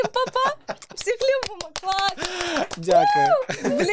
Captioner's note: claping